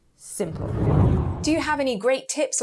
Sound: air swooshing

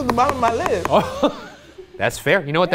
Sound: laughs

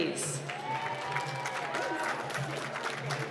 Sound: applause

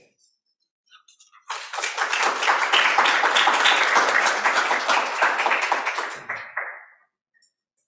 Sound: applause

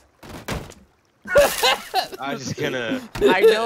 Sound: laughter

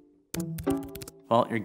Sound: keyboard clicking

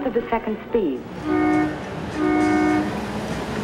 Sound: Seattle Monorail honks horn

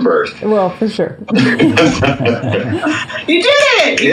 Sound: laughs

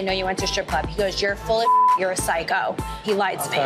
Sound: beep

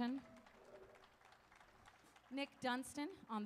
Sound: audience applauding

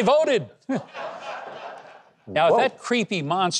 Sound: audience laughing

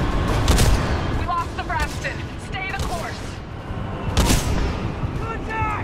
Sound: radio

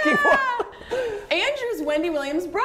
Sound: laughter

